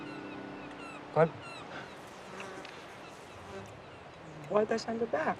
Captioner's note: seagulls cawing; flies buzzing